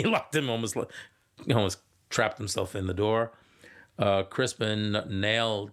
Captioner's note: chuckling